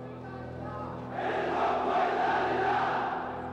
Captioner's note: crowd in court